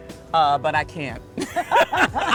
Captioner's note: both laugh